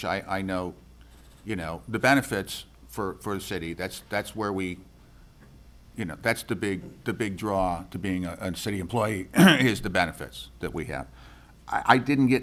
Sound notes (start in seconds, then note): 9.3 clears throat